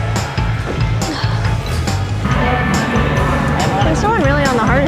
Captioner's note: upbeat music; grunts